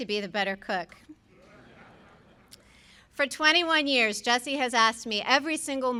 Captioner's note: laughter